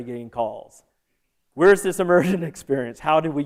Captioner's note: laughter